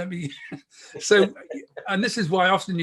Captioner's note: chuckles